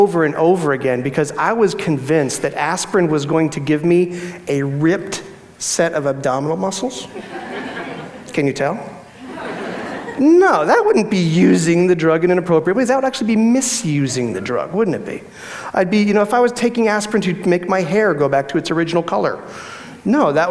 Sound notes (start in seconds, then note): 7.1 audience laughs